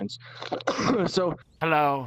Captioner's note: coughs